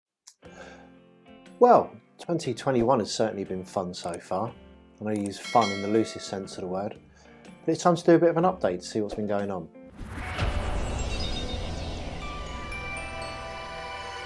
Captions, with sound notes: - Well, 2021 has certainly been fun so far, (pointer clicking) and I use fun (bell ringing) in the loosest sense of the word. But it's time to do a bit of an update, see what's been going on. (upbeat music)